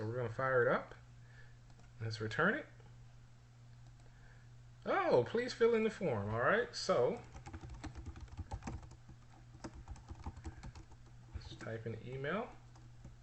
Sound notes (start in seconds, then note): 7.2 typing sounds